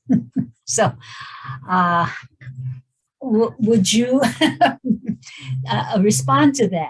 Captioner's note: laughs